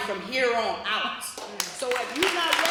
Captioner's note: applause